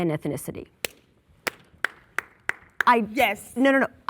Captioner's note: clapping